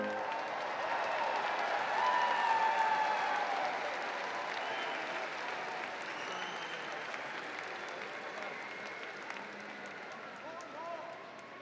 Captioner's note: applause & Cheering